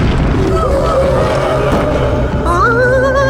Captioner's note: frightened howls